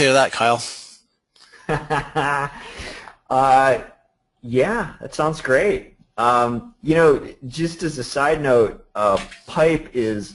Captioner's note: laughter